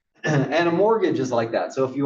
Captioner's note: cough